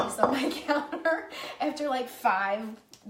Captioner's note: laughing